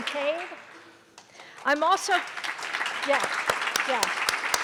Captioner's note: audience applause